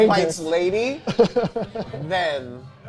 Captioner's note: laughing